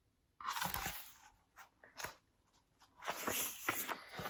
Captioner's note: turns page